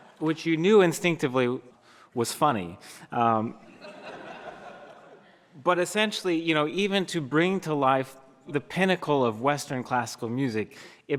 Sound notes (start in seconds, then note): 0.2 laughter from audience